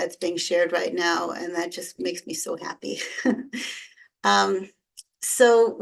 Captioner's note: chuckles